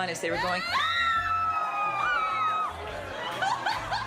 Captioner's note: cheering